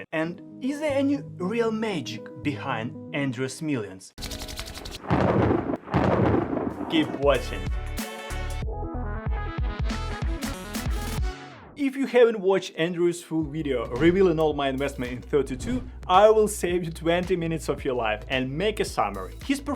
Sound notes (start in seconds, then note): 4.0 hands rubbing; 5.0 thunder rumbling; 8.5 energetic music